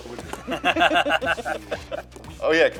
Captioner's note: laughter